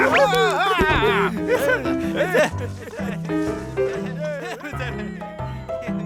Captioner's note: laughing